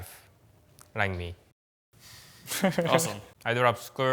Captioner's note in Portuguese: risos